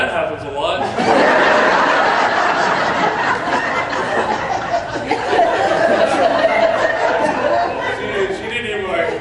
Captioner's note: laughter